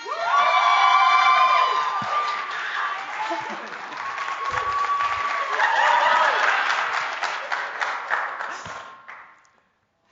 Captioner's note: applause and Cheers